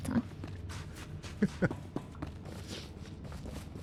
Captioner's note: chuckles